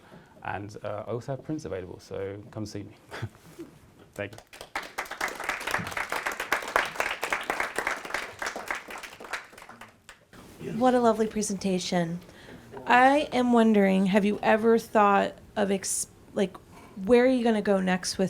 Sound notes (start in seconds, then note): 4.2 applause